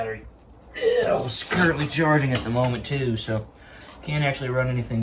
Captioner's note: dad noises